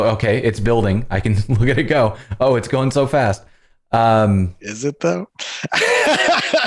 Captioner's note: laughter